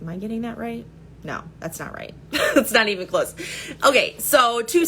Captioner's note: chuckles